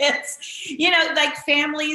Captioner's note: laughing